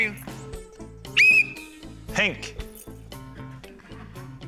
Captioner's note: blows whistle